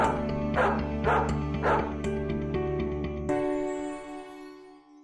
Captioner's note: dog barking